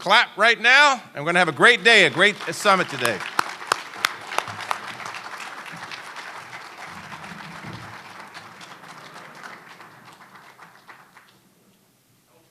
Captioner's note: applause